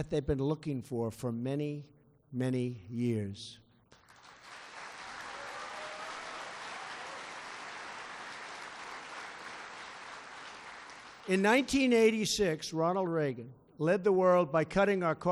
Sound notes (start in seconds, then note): 8.1 applause